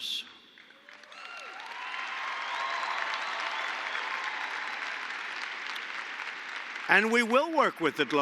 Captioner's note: applause